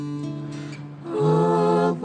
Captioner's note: chanting